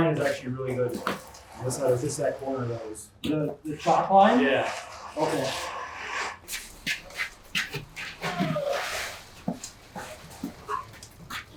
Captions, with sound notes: This line is actually really good. This side corner of those? - The top line? - Yeah. (feet shuffling)